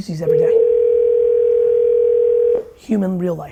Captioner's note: phone rings